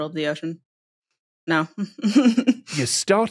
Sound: snickers

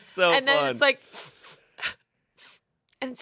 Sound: sniffles

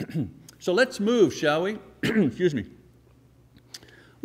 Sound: clearing throat

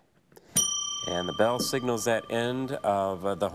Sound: bell dings

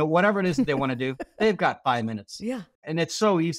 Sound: chuckling

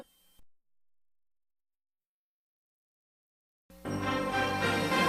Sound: silence; majestic orchestral music plays

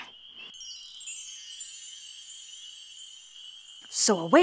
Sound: chimes ring

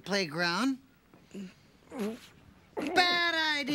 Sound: straining

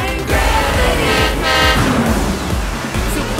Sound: honking

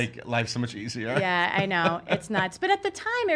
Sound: laughs

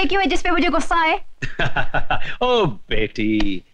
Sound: laughing

